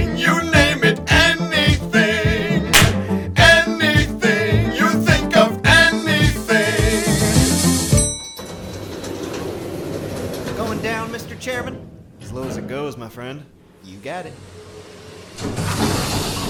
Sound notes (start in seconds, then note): 7.9 elevator chime; 8.4 closing elevator door; 15.4 sounds of a descending elevator